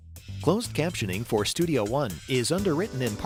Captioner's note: voiceover